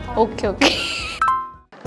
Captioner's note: laughter